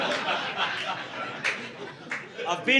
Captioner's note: audience laughing